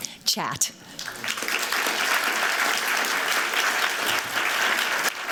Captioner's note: applause